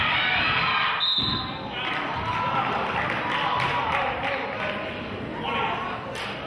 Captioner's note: whistle blows; clapping